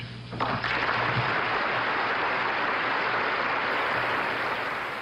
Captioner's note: audience applauding